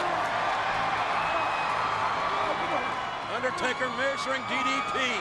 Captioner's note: audience cheering